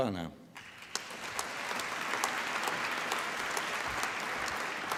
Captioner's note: applause